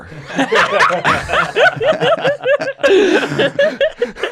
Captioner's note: everybody laughs